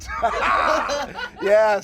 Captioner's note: laughing